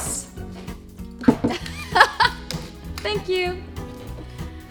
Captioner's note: laughing